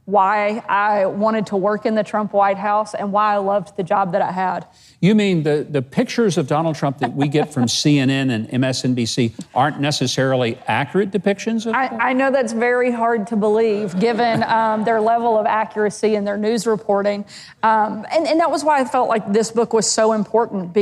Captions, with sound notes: why I wanted to work in the Trump white house and why I loved the job that I had. - You mean the pictures of Donald Trump that we get from CNN and MSNBC aren't necessarily accurate depictions of him? - (laughs) I know that's very hard to believe given their level of accuracy in their news reporting. And that was why I felt like this book was so important